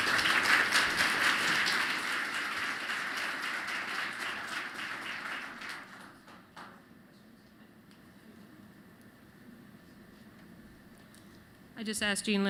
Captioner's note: applause